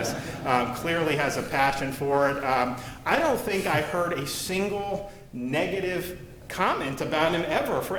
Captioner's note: laughter